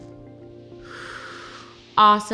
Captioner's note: exhales; inhales